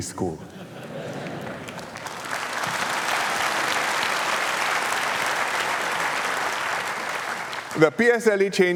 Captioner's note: laughter and applause